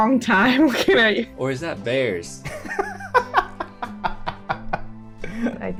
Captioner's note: laughter